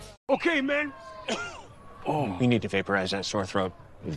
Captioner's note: coughs